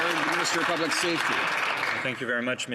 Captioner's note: applause